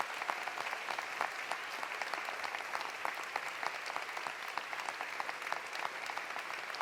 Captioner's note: cheering continues; applause continues